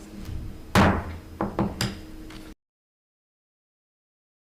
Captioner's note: gavel banging